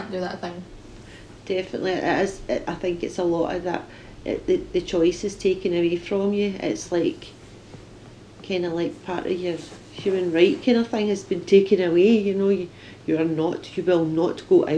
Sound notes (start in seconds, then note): none